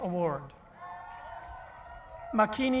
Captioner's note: cheering